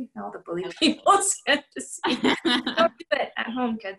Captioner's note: laughter